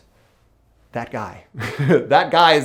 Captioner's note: chuckles